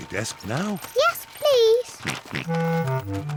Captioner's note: laughs; george oinks